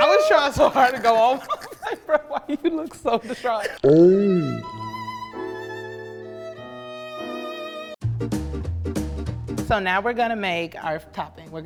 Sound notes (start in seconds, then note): 0.1 laughs; 4.2 sad violin music; 8.0 upbeat music